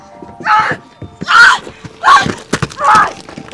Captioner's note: screams